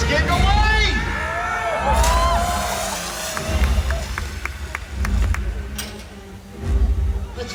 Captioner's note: man yelling; splashing sound